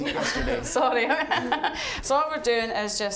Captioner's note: all laughing